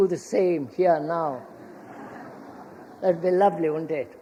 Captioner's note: laughter